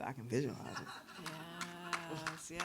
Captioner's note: audience applauds